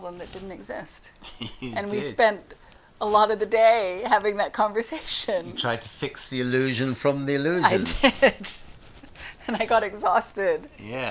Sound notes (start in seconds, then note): 1.2 laughs; 7.6 chuckles